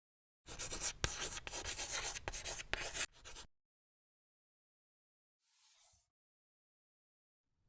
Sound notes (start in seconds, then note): 0.4 writing on chalkboard